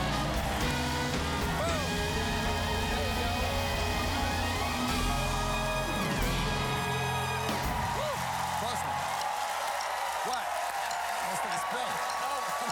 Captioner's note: cheers and applause